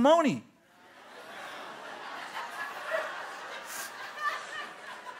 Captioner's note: laughter